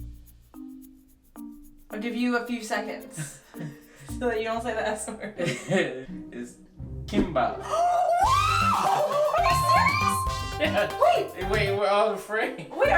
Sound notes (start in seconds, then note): 0.1 comical music; 5.3 both giggle; 7.6 gasps; 8.2 fiesta music; 10.0 bell dings